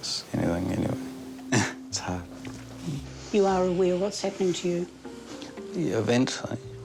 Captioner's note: chuckles